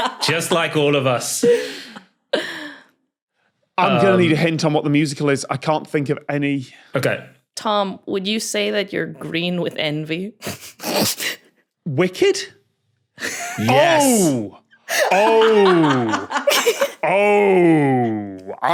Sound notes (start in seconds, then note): 10.4 snicker; 15.9 cackles